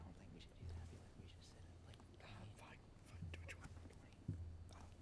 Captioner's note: group whispers